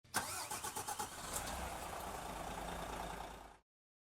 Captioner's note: engine starts up